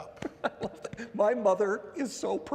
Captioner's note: laughs